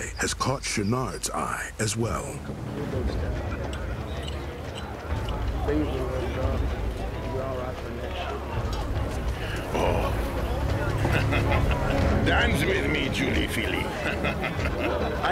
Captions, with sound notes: HAS CAUGHT CHOUINARD'S EYE AS WELL. [PEOPLE CHATTERING] [FRENCH ACCENT] OH! [CHUCKLES] DANCE WITH ME, JOLIE FILLE .